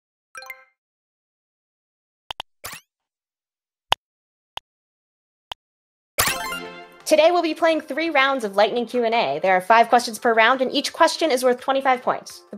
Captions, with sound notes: (computer chimes) (mouse clicks) (computer chimes) Today, we'll be playing three rounds of lightening Q and A. There are five questions per round and each question is worth 25 points.